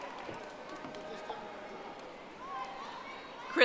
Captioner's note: audience applauding